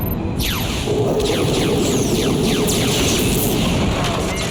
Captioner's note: lasers firing